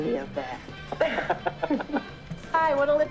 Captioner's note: laughing